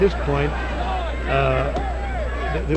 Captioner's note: referee shouting; hand tapping